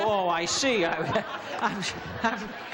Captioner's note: laughter